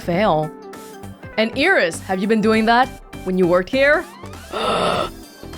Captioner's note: gasps